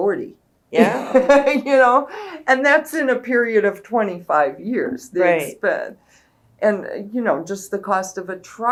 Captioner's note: laughs